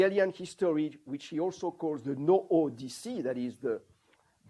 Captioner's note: non-english